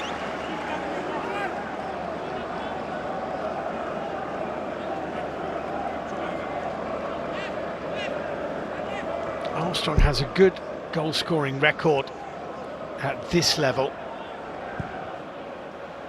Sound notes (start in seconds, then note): 0.0 applause